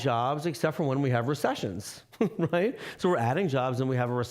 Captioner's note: chuckling